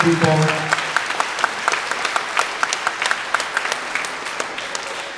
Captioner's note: everyone applauding